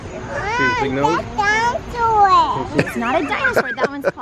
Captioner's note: talking